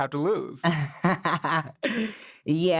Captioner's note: laughs